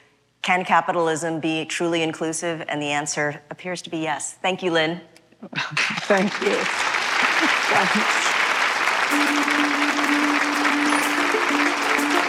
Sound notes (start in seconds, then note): 9.6 applause